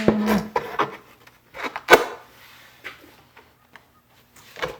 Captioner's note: boards clanking